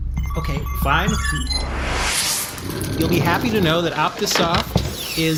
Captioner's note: typing and swirling around his office